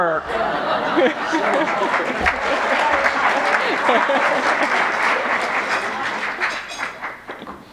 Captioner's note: applause